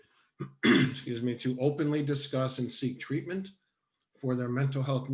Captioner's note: coughs